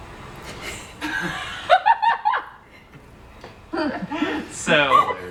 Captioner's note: laughing